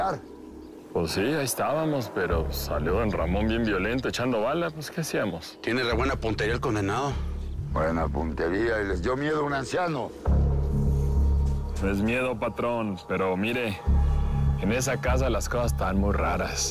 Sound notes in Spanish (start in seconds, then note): none